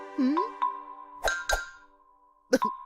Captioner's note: ding-ding